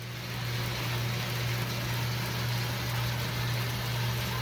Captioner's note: peanut machine whirring